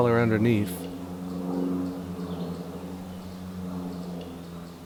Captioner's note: airplane passing overhead